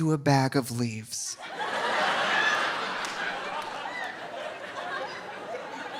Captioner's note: audience laughing